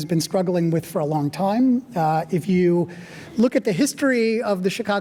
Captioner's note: none